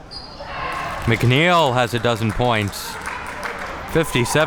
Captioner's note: spectators cheer and applaud